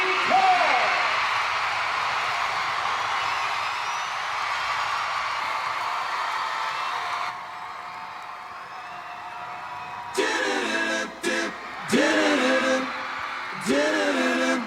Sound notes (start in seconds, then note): 0.0 audience cheers, announcer talks over loud speaker; 0.3 announcer on loud speaker; 2.8 audience cheers